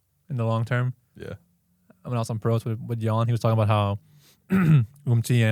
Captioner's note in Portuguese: limpa a garganta